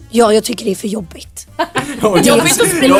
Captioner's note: laugh